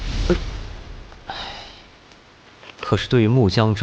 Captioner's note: sighs